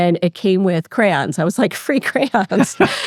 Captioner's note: laughs